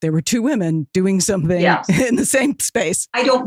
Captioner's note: chuckles